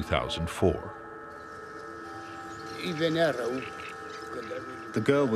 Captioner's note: speaking Romanian